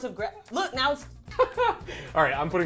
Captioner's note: laughing